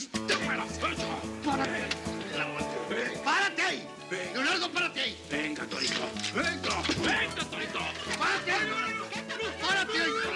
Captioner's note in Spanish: gritos y exclamaciones